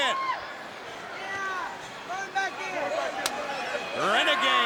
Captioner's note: crowd cheering